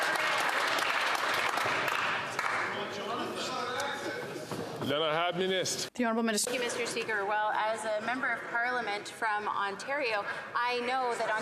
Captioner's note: some Applause